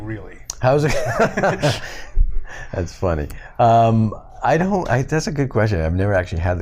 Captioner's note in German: Gelächter